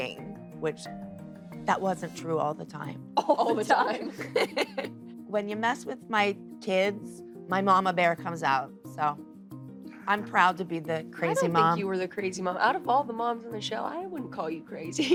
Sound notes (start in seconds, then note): 3.2 both laugh; 3.2 laughs